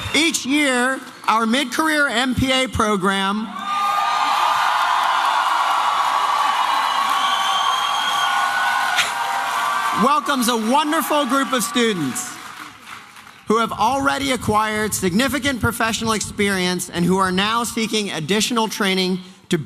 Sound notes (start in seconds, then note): 3.5 applause and cheering